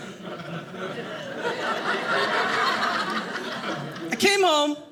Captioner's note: audience laughing